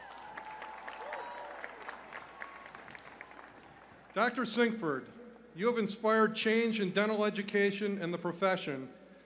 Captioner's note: cheers and applause